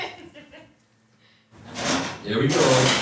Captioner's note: people laughing